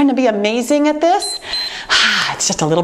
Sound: timer beeps

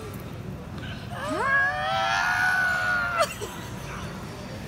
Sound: screams

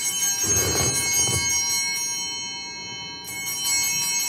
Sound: bell ringing

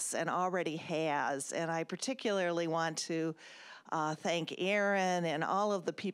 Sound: none

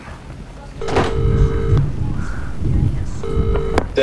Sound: phone rings

